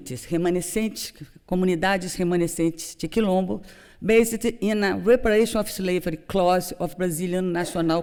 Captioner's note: non-english